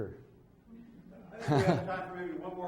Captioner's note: laughs